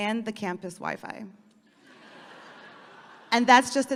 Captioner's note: audience laughing